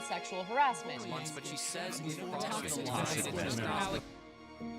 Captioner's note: group chattering